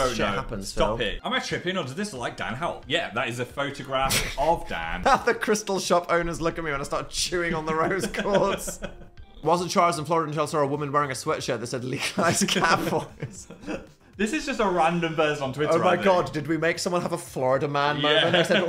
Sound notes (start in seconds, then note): 12.0 chuckles; 12.4 Phil chuckles